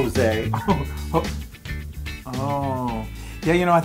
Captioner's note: laugh